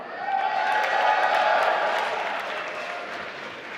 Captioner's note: applause